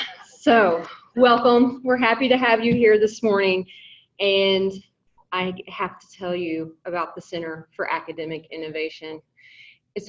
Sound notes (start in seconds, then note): none